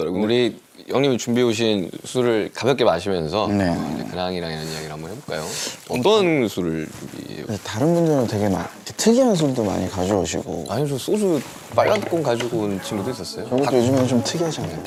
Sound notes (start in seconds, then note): 5.2 rummage